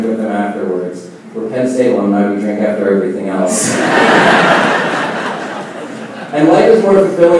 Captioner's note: laughing